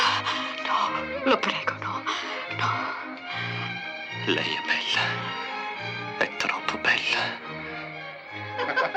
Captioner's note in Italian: risate